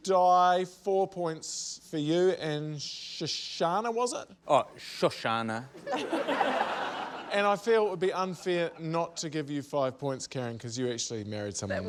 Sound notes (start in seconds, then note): 5.8 laughter